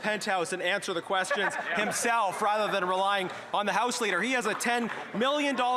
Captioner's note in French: voix de l'interprète